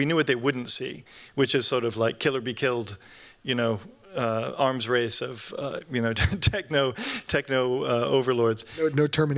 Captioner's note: chuckles